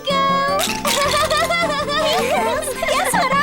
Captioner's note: laughing